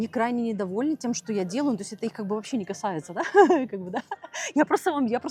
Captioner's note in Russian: смех